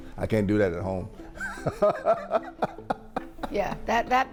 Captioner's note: laughing